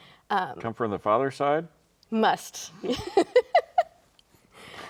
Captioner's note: both laughing